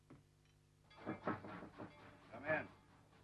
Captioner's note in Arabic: طرق الباب